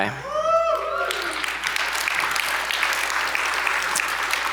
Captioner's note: audience applauds